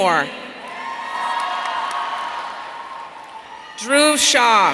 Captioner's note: audience cheering